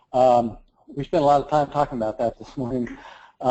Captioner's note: laugh